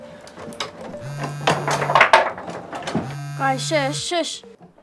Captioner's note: phone vibrating